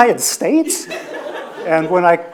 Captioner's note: audience laughs